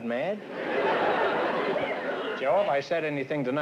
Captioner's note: laughter